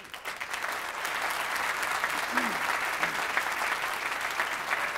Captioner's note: applause